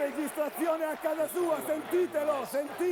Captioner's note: Applauso